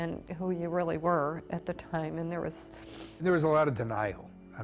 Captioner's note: sniffles